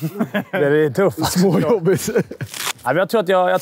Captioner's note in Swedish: skratt